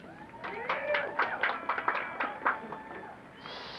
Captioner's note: applause